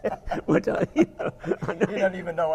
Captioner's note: laugh